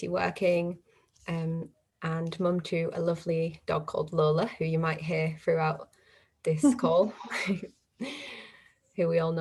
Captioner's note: laughter